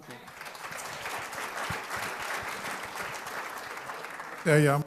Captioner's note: applause